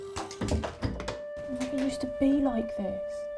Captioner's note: door thuds